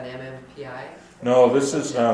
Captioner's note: voiceover